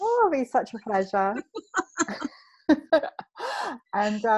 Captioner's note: both laughing